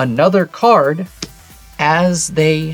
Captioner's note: card slaps